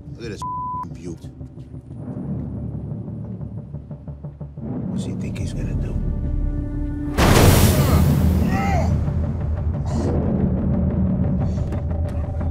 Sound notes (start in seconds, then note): 0.4 beeps; 7.2 airbag explodes; 9.9 suspenseful music continues